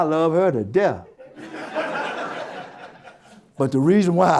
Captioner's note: audience Laughter